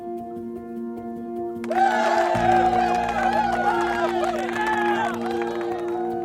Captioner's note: cheers and applause